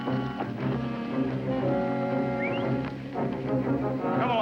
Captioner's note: whistles